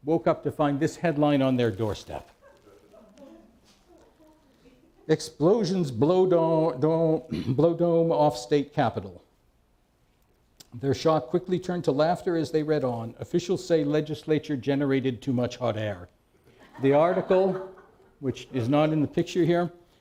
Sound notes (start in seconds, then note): 2.4 laughter